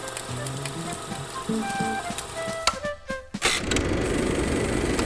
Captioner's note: projector clicking; upbeat music